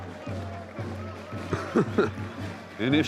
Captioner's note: distant cheering; chuckling